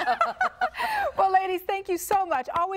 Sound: laughing

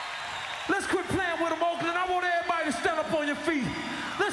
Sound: applause

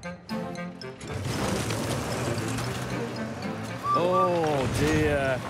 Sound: whistles

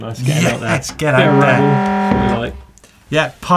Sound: horn honking

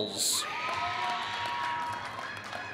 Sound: applause

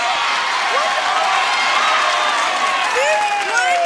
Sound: audience cheering

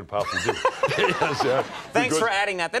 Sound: laughter

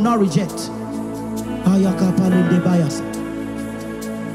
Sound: speaking in tongues

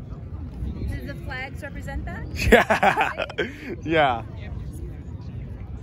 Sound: laughing

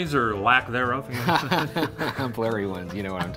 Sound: laughing

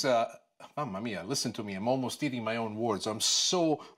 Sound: foreign language

